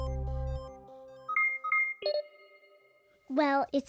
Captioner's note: alert chiming